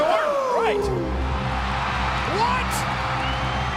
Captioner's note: audience cheering; brooding music